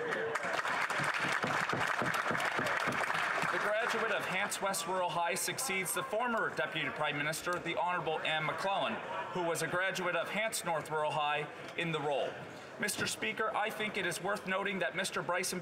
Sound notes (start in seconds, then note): 3.8 some Applause